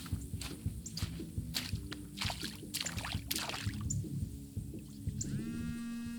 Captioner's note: water splashing; phone continues buzzing